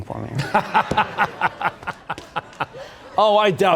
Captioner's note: laughter